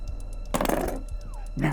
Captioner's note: knife clangs to the ground